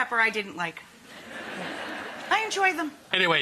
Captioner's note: audience laughs